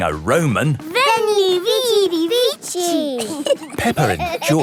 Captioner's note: laughing